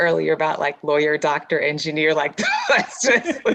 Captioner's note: laughs